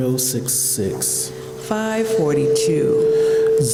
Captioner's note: microphone feedback whines